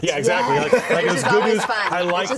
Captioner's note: chatter